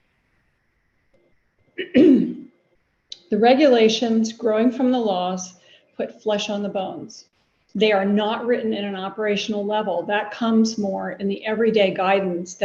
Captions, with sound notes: (clears throat) The regulations growing from the laws put flesh on the bones. They are not written in an operational level that comes more in the everyday guidance